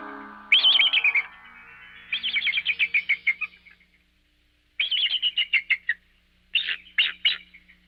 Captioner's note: eagle sounds